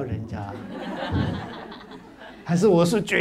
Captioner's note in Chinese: 哈哈哈